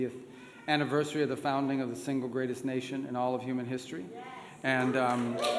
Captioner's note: cheers